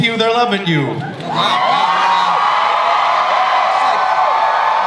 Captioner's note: audience cheers